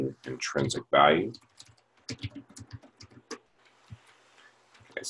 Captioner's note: typing Sounds